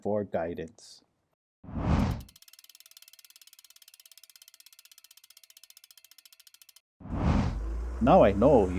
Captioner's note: whoosh; compass spinning; trolley passes